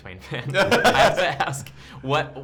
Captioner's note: laughs